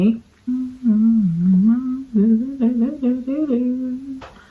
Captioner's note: humming